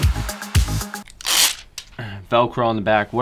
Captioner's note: upbeat techno music; velcro ripping